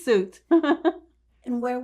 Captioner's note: laughing